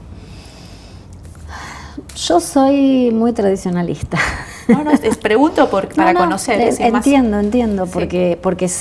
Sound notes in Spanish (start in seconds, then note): 4.2 risas